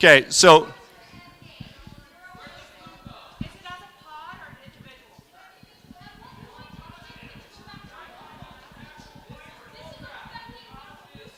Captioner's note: crowd shouting